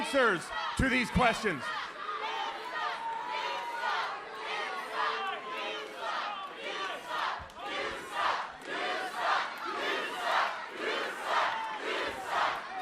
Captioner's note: crowd cheering